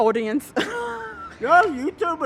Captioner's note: laughs